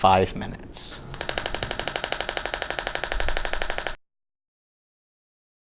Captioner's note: applicator clicks rapidly